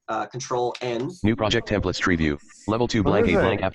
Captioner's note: computer Voice